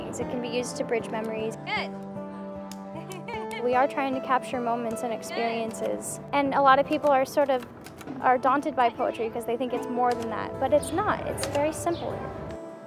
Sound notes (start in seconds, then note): 2.6 hands slapping